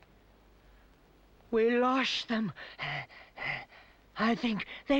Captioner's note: panting